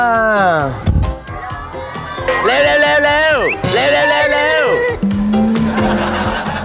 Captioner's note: blowing raspberry